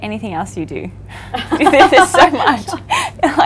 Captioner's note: laughs